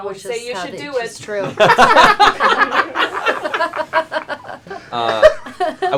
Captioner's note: laughter